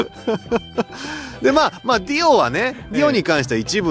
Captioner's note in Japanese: 笑い